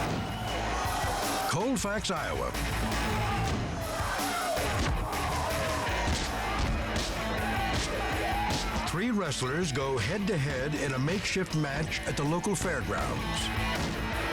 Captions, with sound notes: Colfax, Iowa. (wrestler stomping) Three wrestlers go head to head in a makeshift match at the local fairgrounds.